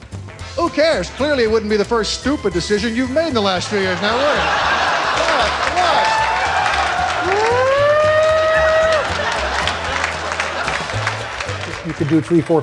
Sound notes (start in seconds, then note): 1.6 laughter; 3.1 imitates siren